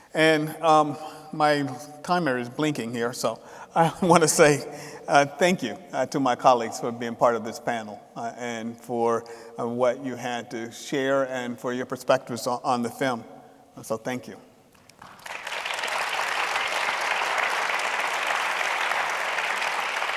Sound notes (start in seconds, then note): 14.9 audience applauding